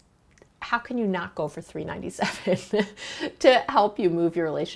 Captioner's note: chuckles